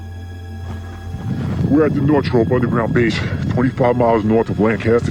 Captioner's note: deep voice speaking